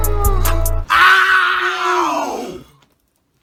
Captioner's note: screech